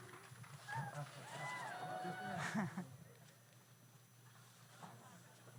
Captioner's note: audience cheers